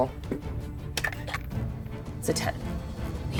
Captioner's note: dice rattling